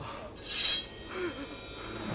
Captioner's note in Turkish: Kılıç çekme sesi